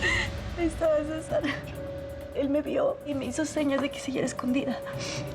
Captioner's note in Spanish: sollozos